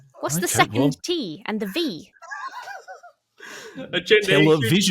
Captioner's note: laughs